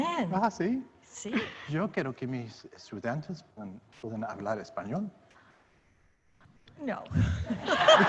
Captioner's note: speaking Spanish